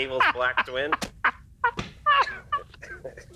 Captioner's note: laughter